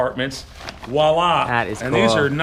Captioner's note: speaks foreign language